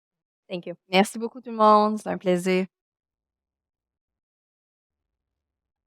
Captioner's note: speaking French